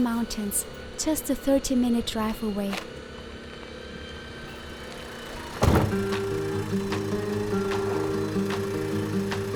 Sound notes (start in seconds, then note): 5.4 car trunk slam